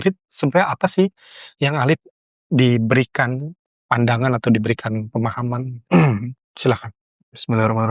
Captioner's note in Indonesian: berdehem